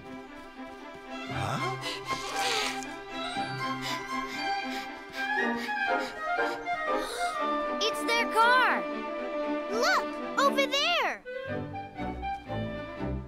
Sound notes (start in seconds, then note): 1.3 gasping